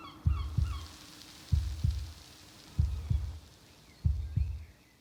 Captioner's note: birds chirping; rain pouring